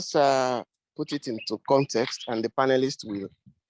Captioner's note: birds tweeting